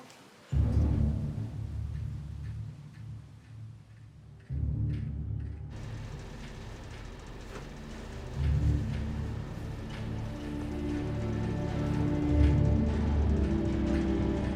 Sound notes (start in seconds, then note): 0.2 dramatic music; 5.7 AC humming; 11.6 dramatic music